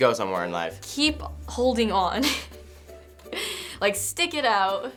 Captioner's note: laughing